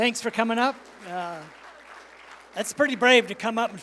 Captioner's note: applause